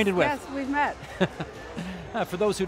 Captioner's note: Paikin laughing